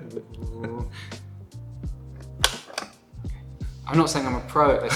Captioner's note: laughter